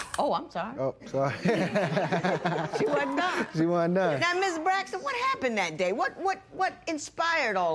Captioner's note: laughter